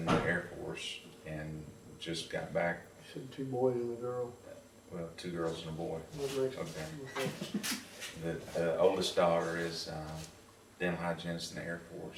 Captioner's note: laughter